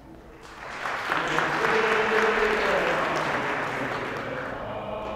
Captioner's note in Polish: oklaski